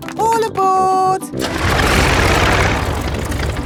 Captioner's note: plane engine starts